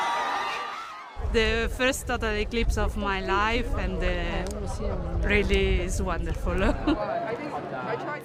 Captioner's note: cheers and Applause